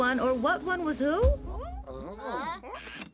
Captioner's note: all exclaiming